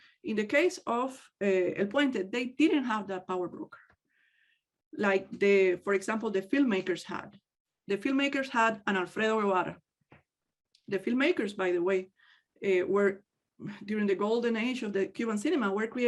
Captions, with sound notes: In the case of El Puente they didn't have that power broker. Like for example, the filmmakers had. The filmmakers had an (speaks in native language). The filmmakers by the way, were during the golden age of the Cuban cinema work,